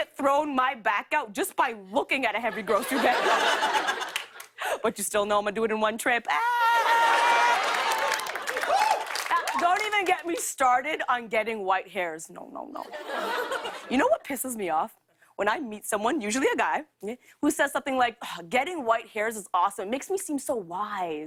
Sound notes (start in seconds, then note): 2.5 laughter; 6.7 laughter